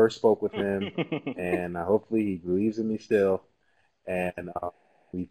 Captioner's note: laugh